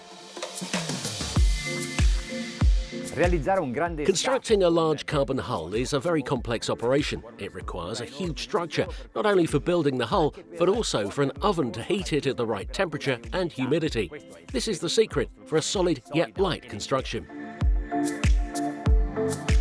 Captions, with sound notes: (speaking foreign language) Constructing a large carbon hull is a very complex operation. It requires a huge structure. Not only building the hull, but also for an oven to heat it at the right temperature and humidity. This is the secret for a solid yet light construction.